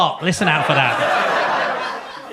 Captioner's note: audience laughs